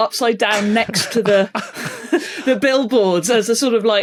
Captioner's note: giggles